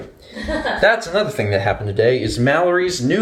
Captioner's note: laughs